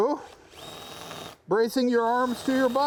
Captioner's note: Sand-O-Flex whirring